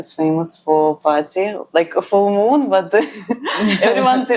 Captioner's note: laughs